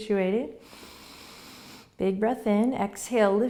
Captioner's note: deep breathing